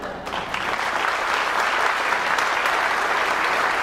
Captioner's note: clapping